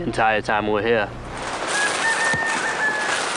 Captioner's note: rooster crowing